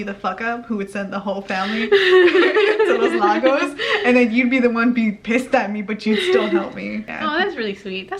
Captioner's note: both laugh